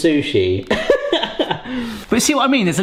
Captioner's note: laughing